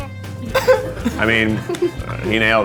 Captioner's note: laughing